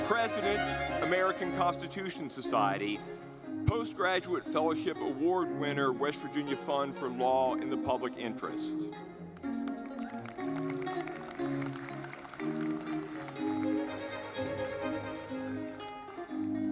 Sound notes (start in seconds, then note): 9.3 audience clapping; 10.2 lively music